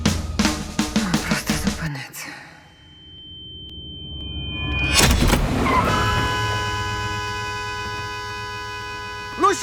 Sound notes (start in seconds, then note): 2.5 high-pitched ringing; 5.0 brakes screech; 5.3 horn blaring; 7.0 horn continues blaring